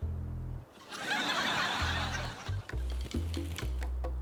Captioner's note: laughter